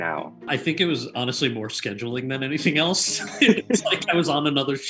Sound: laughs

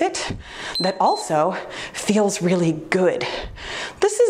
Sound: timer beeps

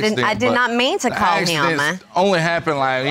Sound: none

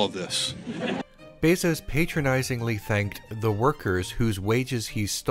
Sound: uncomfortable laughter of people with real jobs

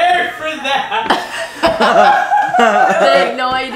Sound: laughing

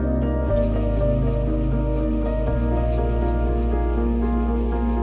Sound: bugs buzzing

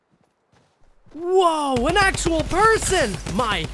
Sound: gun bangs

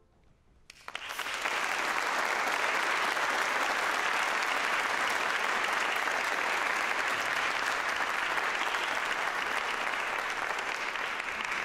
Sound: applause

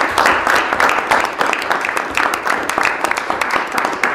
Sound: applause

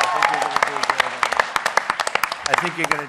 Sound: applause

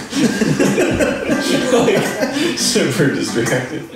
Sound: laughing

